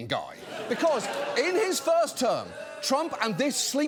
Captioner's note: audience booing